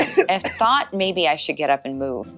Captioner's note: coughing sounds